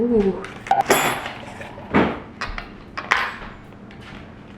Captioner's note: metal clacking